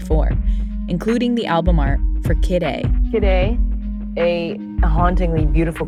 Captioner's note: soundbite of archived recording